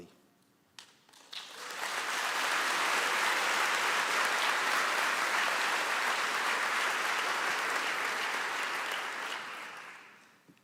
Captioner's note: applause